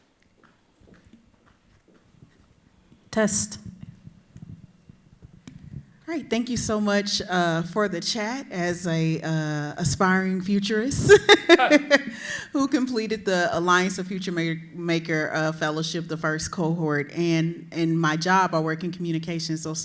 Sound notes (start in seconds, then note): 11.1 laughs